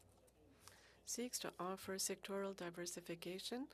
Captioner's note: speaking French